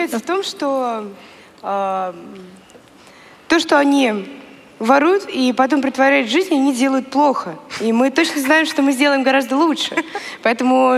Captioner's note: foreign Language